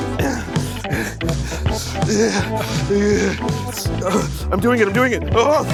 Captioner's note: heavy, uncomfortable breathing